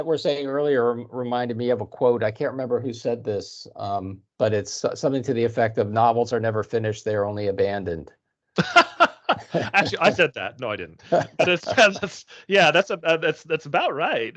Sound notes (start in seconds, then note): 8.6 laughing